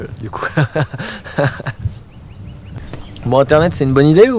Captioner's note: laughs